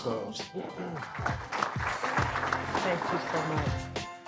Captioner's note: applause